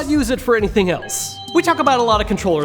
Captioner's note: chime